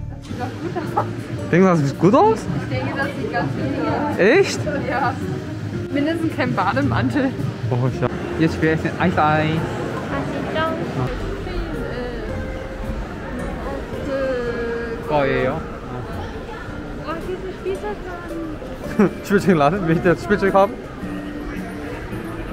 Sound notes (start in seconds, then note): 11.0 speaking Korean